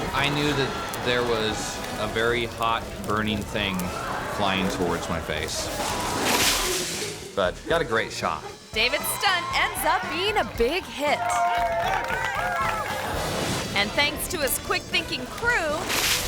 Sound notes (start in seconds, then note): 6.5 water splashes; 11.9 audience cheers and applauds